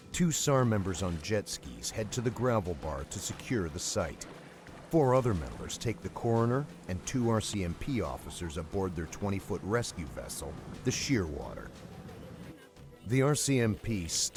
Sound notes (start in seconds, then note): 9.1 voiceover